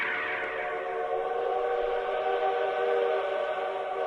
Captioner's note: chooo choooo~